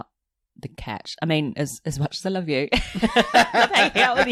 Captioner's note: laughs